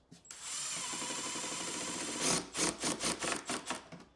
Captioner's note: tool whirring